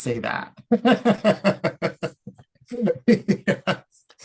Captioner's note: laughing